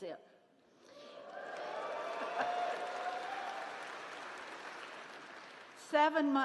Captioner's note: cheering